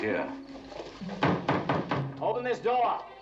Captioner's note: shouting